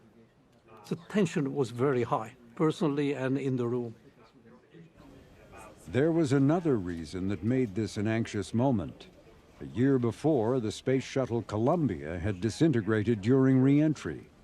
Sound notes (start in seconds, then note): 5.2 murmurs